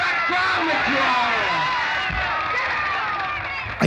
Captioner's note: cheers and applause